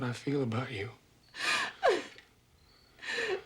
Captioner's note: sobbing